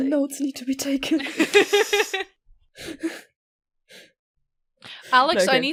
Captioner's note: Rover laughs